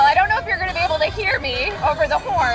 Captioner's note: horns